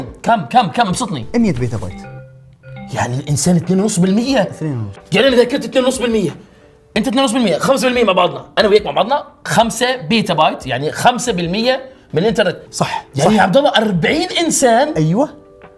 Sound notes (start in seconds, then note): none